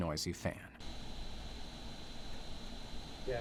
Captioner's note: fan rotating